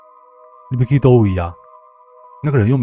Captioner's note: in Hokkien